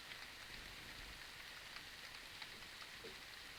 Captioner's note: rain pattering